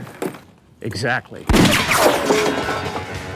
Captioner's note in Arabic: طلقات نارية; موسيقى غربية مثيرة